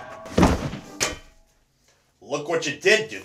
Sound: dull whump

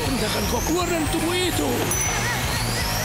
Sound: screaming

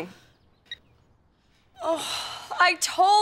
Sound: sighing

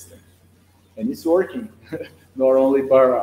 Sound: chuckles

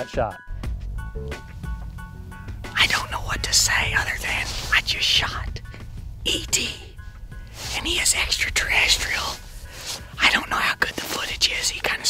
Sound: whispering

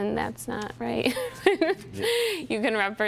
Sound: laughs

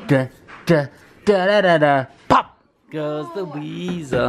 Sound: humming "Pop Goes the Weasel"

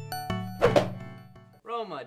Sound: whoosh

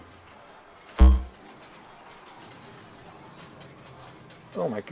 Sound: hologram dings

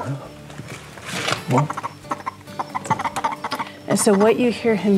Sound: frog croaks

